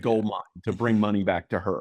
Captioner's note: laughs